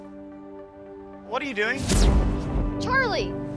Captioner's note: zapping